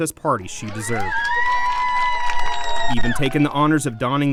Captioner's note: cheering and clapping